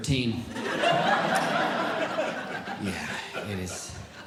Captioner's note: audience Laughing